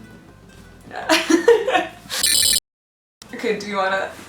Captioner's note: both laughing